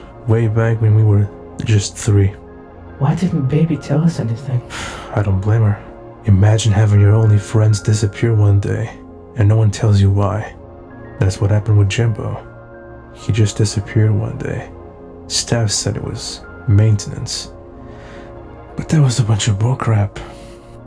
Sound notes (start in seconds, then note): 4.7 BB scoffs